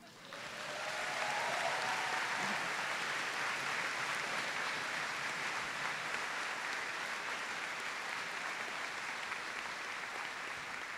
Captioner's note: applause